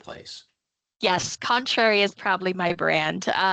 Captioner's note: chuckling